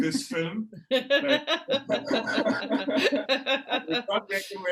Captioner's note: all laughing